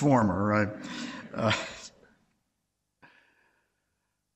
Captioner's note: audience laughs